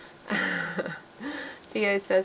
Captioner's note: chuckling